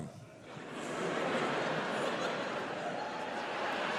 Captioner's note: crowd laughs